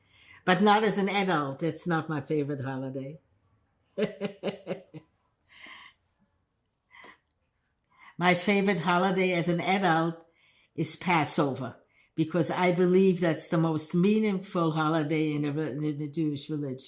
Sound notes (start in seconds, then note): 4.0 laughing